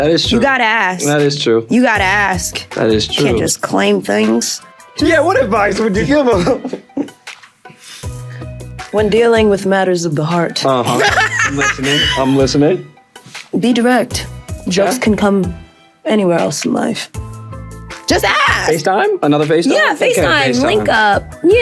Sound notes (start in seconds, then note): 6.4 laughing; 6.8 pensive rhythmic music continues; 10.9 Lovie laughing